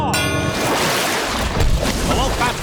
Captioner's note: dinging